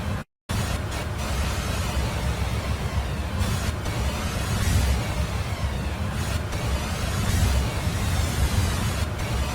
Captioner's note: eerie sound